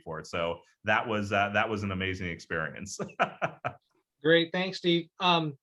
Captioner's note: laughs